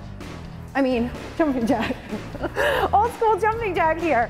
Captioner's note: laughter